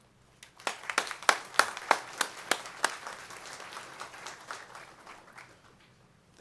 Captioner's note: applause